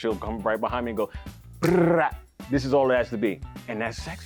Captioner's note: rolls tongue